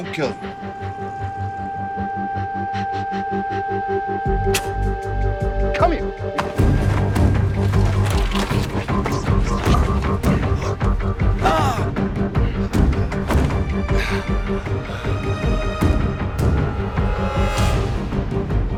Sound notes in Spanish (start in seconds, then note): 4.3 Sonido del escupitajo; 9.5 Golpes